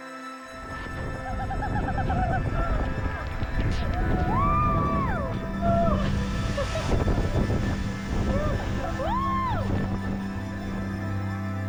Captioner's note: laughs and cheers